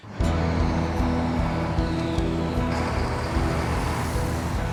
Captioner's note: truck engines